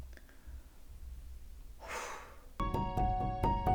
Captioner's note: sigh